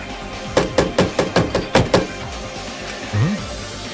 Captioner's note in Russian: Стук стук стук стук!